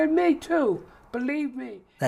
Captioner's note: voice trails off